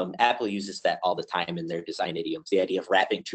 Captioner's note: audio warps